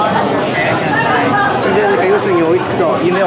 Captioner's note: speaking Japanese